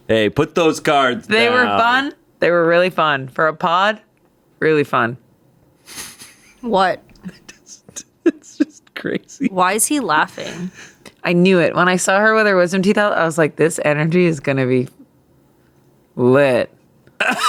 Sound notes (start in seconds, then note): 7.2 laughs